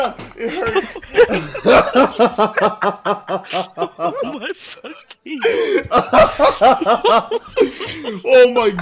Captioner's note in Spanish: Demasiadas risas fuertes